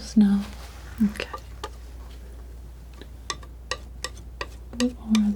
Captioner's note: scratching